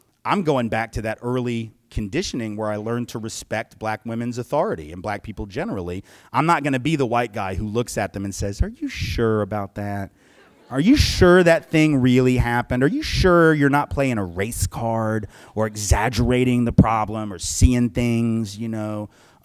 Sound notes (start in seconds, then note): 8.0 sweetened voice